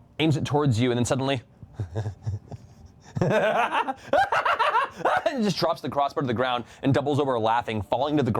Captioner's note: maniacal laughter